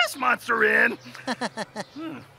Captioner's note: laughs